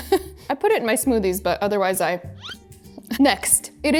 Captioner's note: green part whooshes